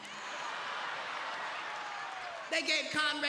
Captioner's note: audience laughing